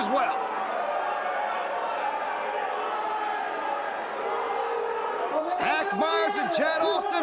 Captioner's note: crowd cheering